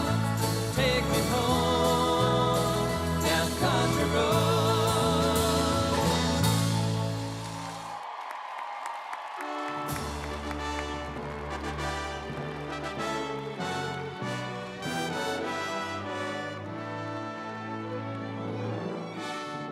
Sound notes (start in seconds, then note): 8.0 audience applauds; 9.9 triumphant music